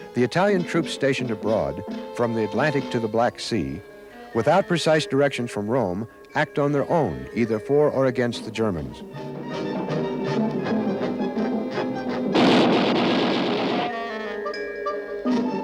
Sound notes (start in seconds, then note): 10.0 erratic music continues; 12.2 gun pounds